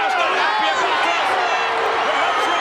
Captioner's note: all yelling; crowd booing